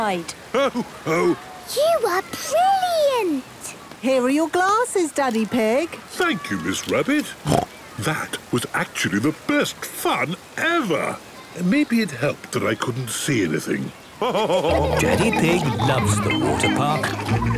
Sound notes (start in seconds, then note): 7.4 snorts; 14.2 laughing